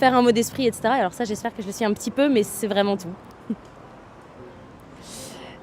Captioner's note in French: rires